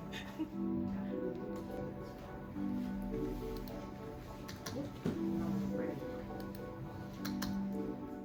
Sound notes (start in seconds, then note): 4.5 mouse and keyboard clicks